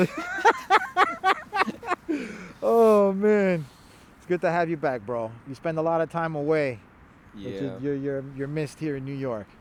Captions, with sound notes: (laughs) Oh man. It's good to have you back, bro. You spend a lot of time away. - Yeah. - You're missed here in New York.